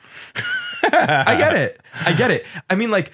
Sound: laughs

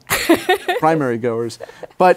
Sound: laughs

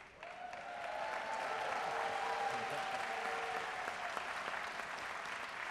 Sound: audience cheering and applauding

